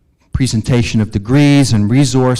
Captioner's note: none